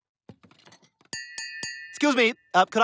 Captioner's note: tapping